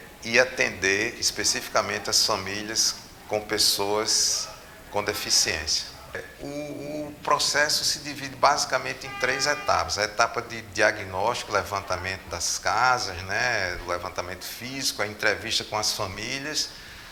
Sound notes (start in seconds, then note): 8.5 driver honks